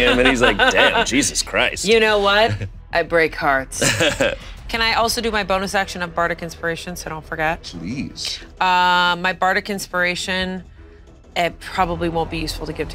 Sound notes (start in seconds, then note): 3.8 chuckling